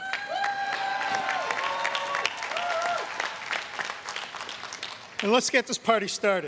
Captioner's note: everyone cheering and applauding